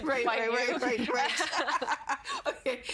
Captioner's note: laughing